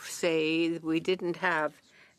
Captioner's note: speaking in French